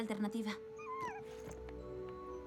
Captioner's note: whine